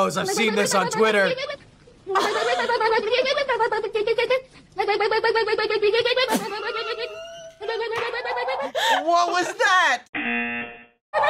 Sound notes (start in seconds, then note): 0.3 laughs; 5.3 boy vocalizing; 7.4 laughs; 10.1 buzzer